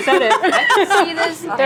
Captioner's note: laughs